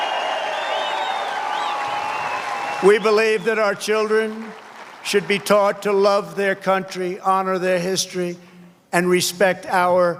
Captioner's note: cheers and applause